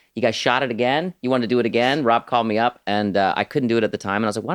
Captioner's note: none